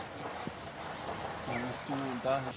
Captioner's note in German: Leise Gesprächsfetzen